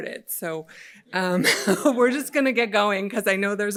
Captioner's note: laughs